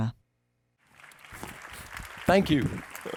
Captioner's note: audience applauding; chuckling